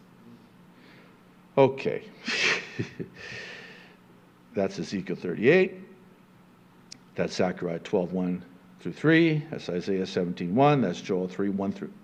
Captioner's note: chuckling